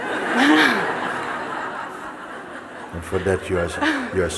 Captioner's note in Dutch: gelach